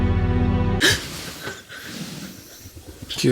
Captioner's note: gasps